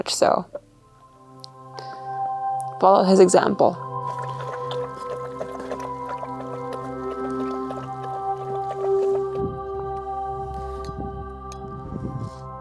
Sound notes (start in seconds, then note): 3.8 food slushing; 8.0 gentle music